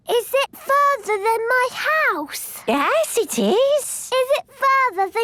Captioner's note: none